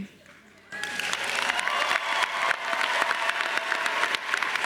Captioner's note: all cheering and clapping